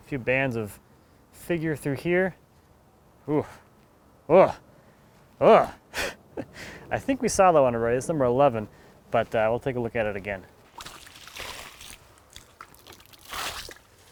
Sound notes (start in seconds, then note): 5.5 exclaiming; 6.0 laughing; 10.6 water splashing